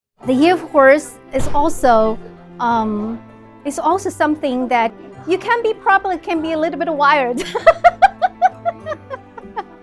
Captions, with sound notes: The Year of Horse is also, is also something that you can be, probably can be a little bit wild (laughs)